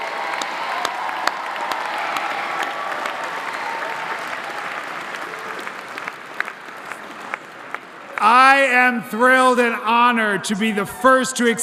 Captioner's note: applause